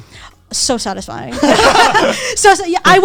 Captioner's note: all laughing